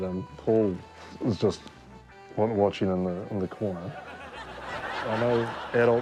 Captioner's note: audience laughs